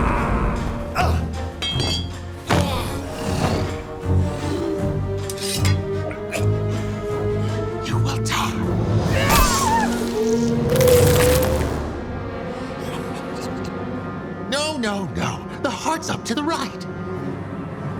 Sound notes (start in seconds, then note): 6.1 choking